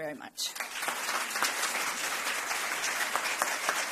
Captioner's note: applause